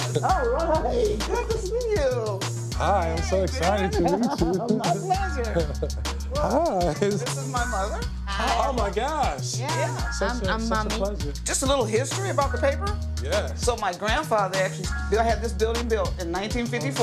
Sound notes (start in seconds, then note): 3.6 laughing